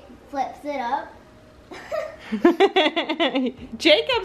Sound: laughing

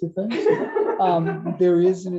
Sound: laughter

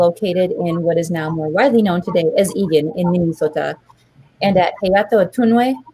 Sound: speaking Dakota

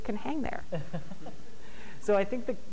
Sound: laughing

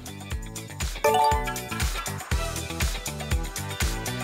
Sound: electronic bell ringing; upbeat music

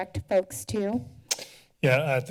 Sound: tongue clicking

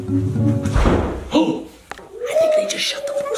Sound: whispering; door slams; whispering

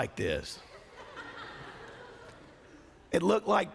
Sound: laughter

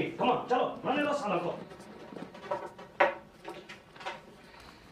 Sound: speaking foreign language

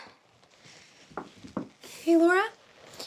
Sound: knocks at the door

